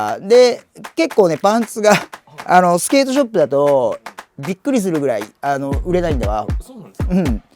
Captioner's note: laughs